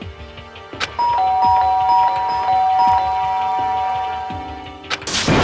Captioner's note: ding dong, Ding dong, Ding dong